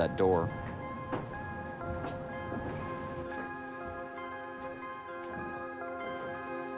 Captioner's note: gentle music continues; feet pattering continues